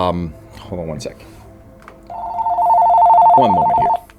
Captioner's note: phone ringing